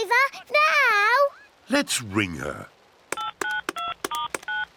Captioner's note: phone beeps